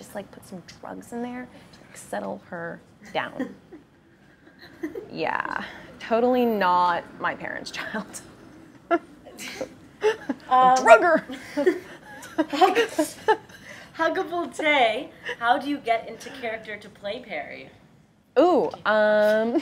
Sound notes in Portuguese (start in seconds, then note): 10.0 risos